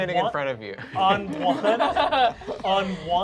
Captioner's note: laughter